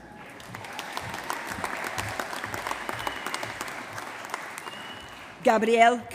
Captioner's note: applause